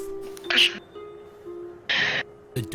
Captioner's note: Krel startled noise